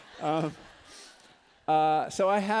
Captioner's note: laughter